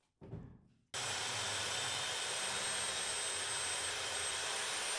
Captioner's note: saw buzzing